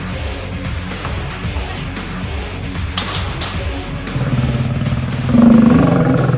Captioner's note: growl; music fades